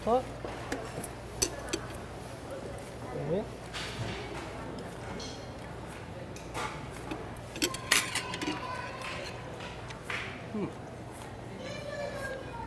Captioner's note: ambient restaurant noise